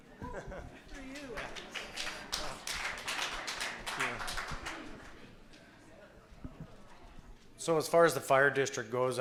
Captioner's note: applause